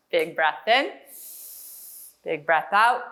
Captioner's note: inhale